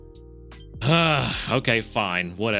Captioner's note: sighs